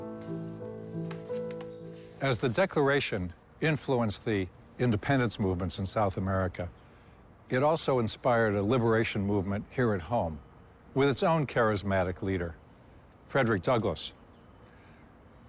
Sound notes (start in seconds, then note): none